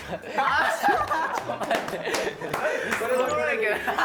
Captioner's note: cracking up